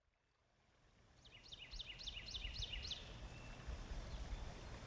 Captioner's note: birds chirping